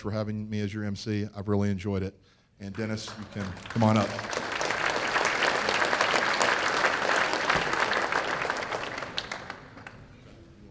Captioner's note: applause